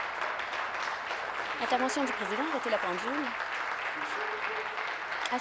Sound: applause

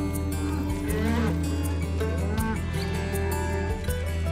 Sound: cows mooing

